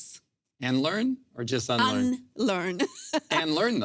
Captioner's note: laughs